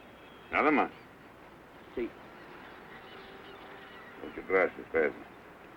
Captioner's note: speaking in foreign language